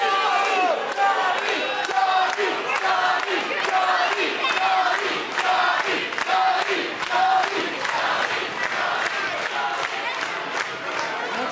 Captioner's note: fans chanting johnny